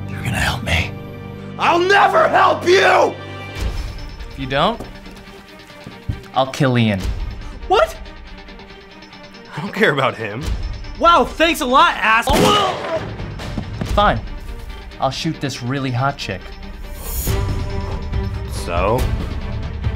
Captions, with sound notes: you're gonna help me? -I'll never help you! -If you don't... I'll kill Ian. -What? -I don't care about him. -Wow, thanks a lot assh-- [gunshot, groans] -Fine, I'll shoot this really hot chick. -So?